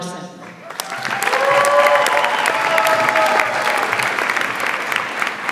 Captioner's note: audience applauds and cheers